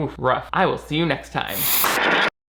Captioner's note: static